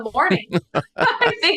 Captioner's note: laughter